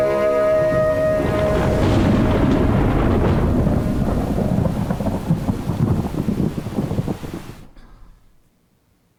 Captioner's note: thunder